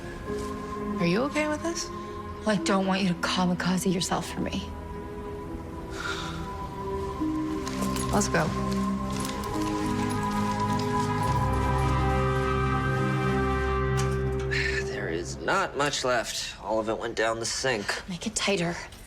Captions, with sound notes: - Are you okay with this? - Well, I don't want you to kamikaze yourself for me. - Let's go. (eerie music) (sighs) - There is not much left. All of it went down the sink. - Make it tighter.